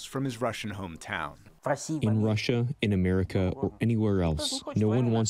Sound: through translator

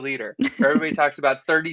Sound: giggling

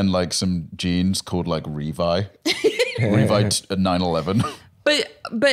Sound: laughs

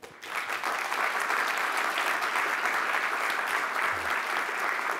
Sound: applause

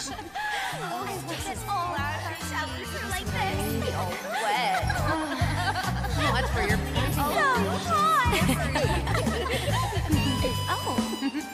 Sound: cursed ecchi sounds

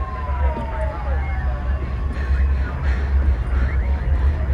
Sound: breathing loudly

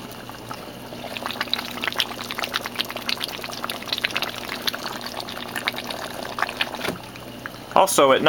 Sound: slight bubble sound

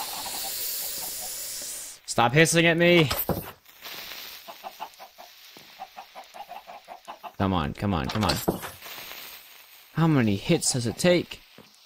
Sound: whimpers again

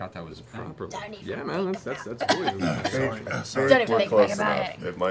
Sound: jumbled excited chatter

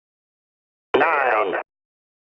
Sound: radio static

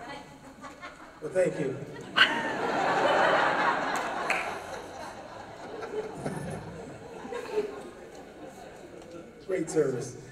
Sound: laughter

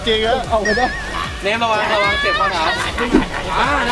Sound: screams

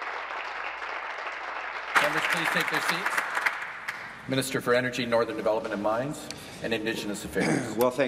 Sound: applause

